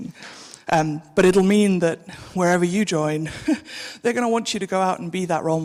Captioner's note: chuckles